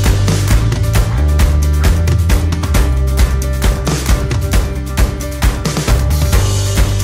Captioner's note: Burr